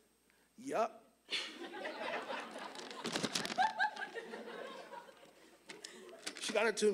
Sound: audience laughing

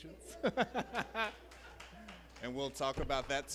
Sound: laughs

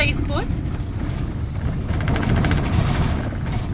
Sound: van shaking

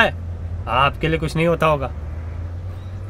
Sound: murmuring

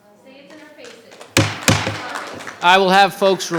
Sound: audience applauding

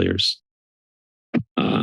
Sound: silence

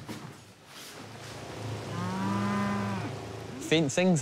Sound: engine rumbles, cows moo

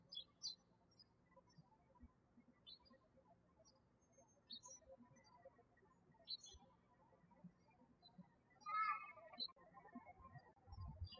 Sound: birds chirping

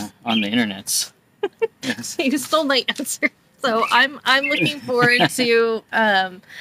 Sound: laughs

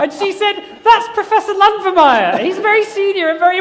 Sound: laughter

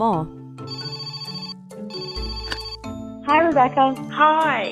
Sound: phone ringing

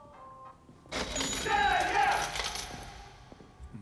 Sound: cash register dings

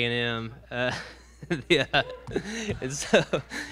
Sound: audience member whoops; laughs

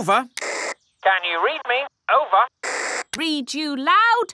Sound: walkie-talkie crackles

